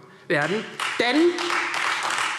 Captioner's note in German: Beifall Freie Demokraten